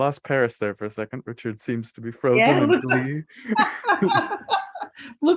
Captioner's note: laughter